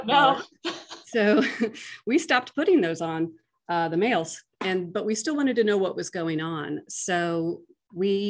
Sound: laugh

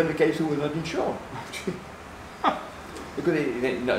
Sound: laugh

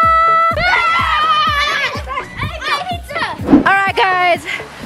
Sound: children screaming

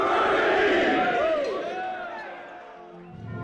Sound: all cheering

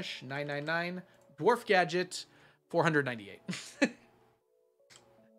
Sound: laughs

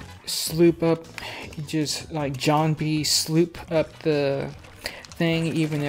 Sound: sigh

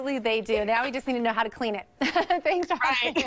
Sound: chuckles

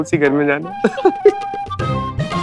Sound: chuckles

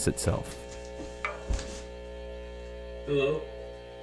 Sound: microphone feedback

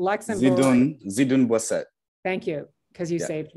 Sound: non-english

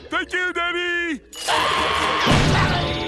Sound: screaming

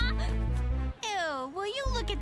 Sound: giggling

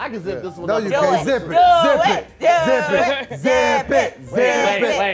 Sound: group chanting

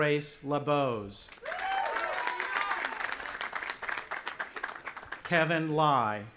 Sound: audience applauding and cheering

